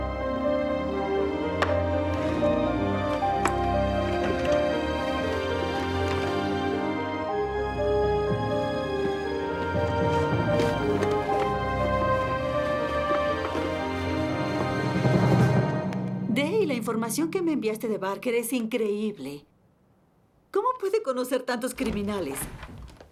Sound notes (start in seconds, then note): 0.1 suspenseful music; 4.0 drawers banging